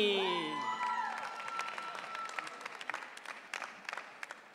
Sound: audience cheering

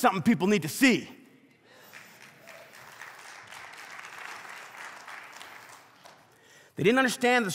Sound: congregation clapping

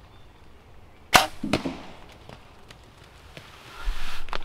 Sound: arrow shot

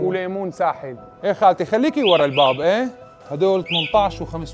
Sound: chatter

